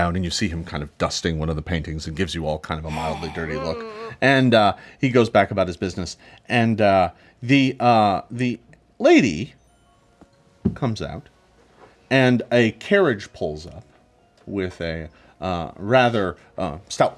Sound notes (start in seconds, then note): 2.8 grunts in anger; 3.5 hisses